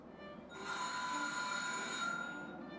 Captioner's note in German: Klingel